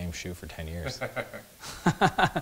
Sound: laughs

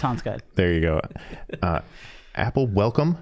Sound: chuckling

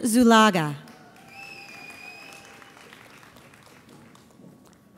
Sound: audience applauds

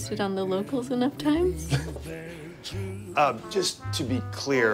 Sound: chuckles

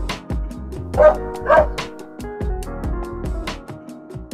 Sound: dog barks

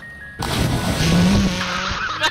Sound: splash

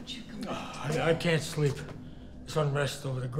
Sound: sighs

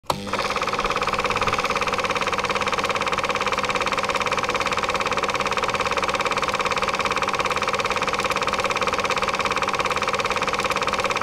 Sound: projector Whirring

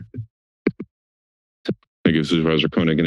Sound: silence

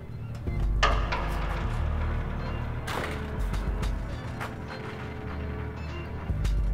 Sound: somber music continues; object thudding

